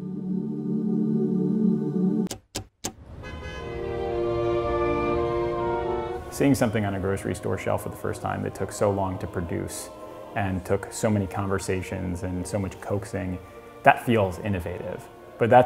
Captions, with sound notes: (soft music) (car horn sounds) (classical music) Seeing something on a grocery store shelf for the first time that took so long to produce, and took so many conversations and so much coaxing, that feels innovative.